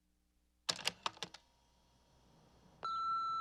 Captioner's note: click